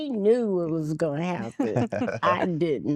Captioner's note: laughter